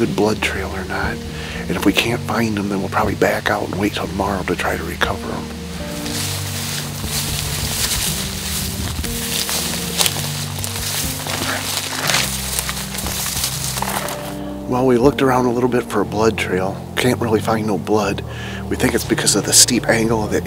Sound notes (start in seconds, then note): 5.5 sound of walking